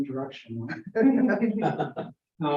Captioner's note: laughter